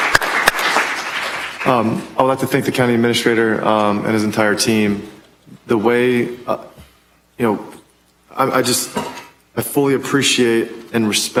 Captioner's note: applause